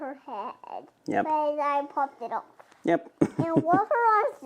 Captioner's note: laughing